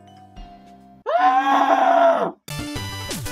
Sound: screams

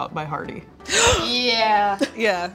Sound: gasping excitedly

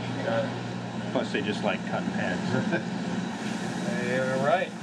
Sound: men chuckle

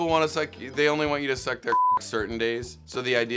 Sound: beep

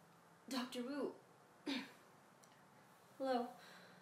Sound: clears throat

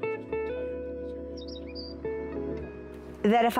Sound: bird Sounds

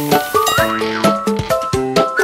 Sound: ding

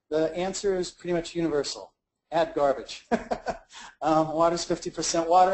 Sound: laughs

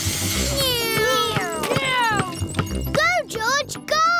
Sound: whirring

